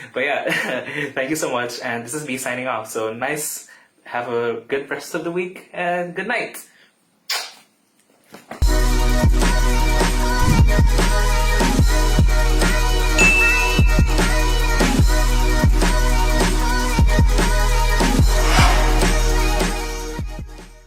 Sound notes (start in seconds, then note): 7.2 kiss; 8.7 upbeat music